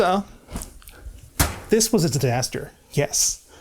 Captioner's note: resonant thud